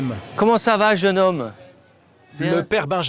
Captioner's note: French spoken audio